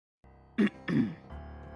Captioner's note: DIAVOLO clears his throat